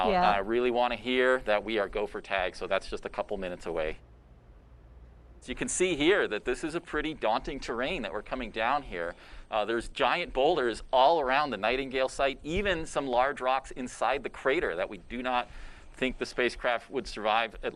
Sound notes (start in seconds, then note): none